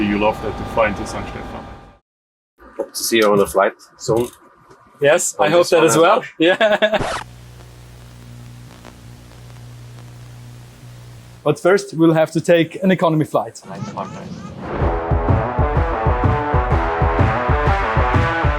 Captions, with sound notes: you love that to fly in St. Stephan. - We hope to see on a flights sooon. - Yes, I hope that as well, yeah. (laughs) (record scratching) But first, we'll have to take an economy flight. (upbeat music)